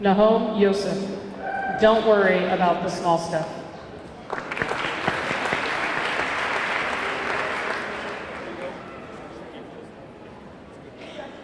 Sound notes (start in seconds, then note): 4.2 audience clapping; 4.4 audience cheering